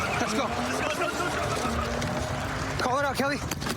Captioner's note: shouting